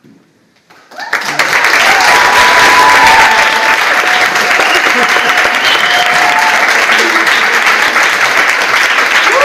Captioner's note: audience applauds